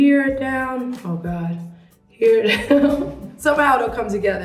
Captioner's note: laughs